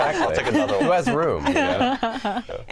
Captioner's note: laughter